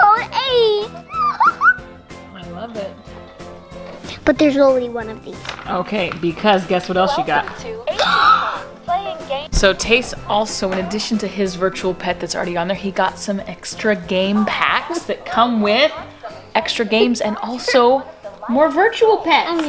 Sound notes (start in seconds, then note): 1.0 giggling; 7.8 gasping